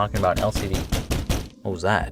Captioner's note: knocking